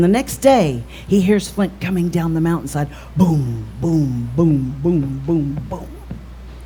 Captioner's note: boom boom boom boom boom boom boom